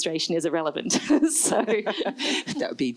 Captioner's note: laughs